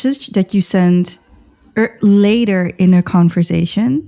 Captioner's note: uh